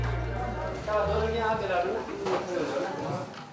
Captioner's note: foreign language spoken